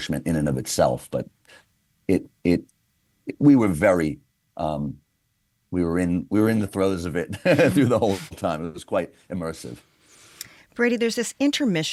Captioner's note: laughs